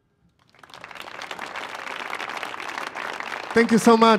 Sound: applause

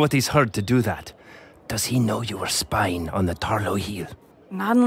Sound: whispers

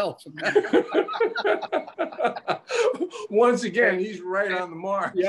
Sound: both laughing

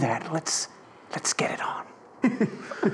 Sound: laughing

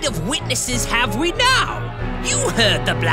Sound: crowd shouts

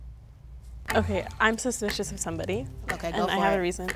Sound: clock ticks

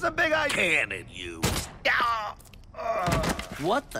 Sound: gunshot

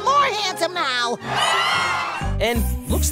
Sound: cheering

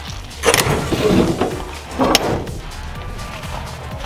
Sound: door opens

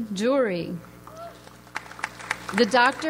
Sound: audience applauds

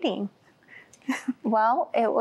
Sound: giggle

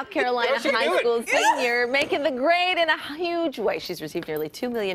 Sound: laughter

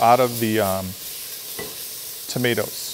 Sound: pan sizzling

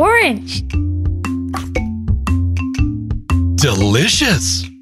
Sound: Ed chomps

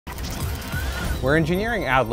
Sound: machine startup

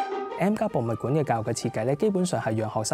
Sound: Cantonese

